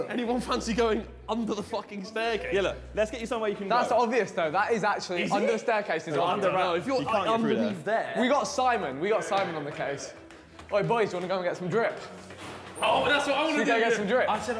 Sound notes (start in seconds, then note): 6.2 group chatters